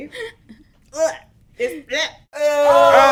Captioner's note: gags